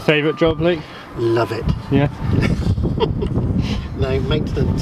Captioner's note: laughs